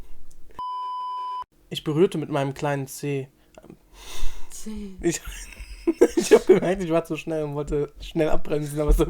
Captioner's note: laughs